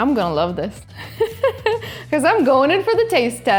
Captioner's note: laughs